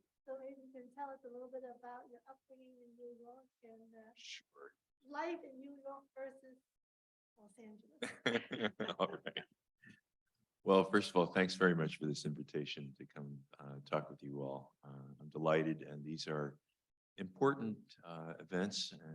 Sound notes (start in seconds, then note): 8.0 chuckles